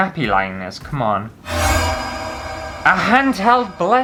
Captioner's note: alerting Noise!!